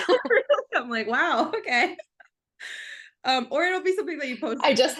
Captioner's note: laughs